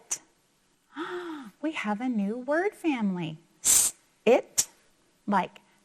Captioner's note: gasps